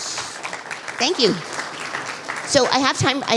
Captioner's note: applause